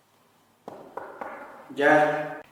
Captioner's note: knocks